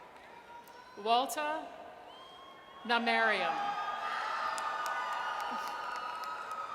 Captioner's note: audience cheers